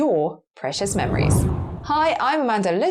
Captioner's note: whooshing air